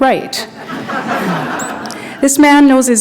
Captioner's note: laughter